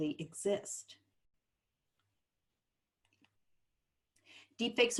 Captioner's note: silence